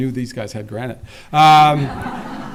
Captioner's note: laughter